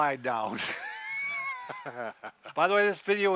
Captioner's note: laugh